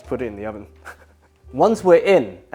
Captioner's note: chuckles